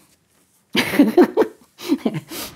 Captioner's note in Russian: смеется